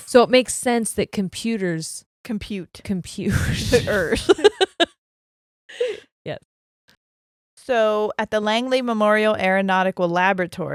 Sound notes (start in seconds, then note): 3.3 laughing; 3.6 chuckles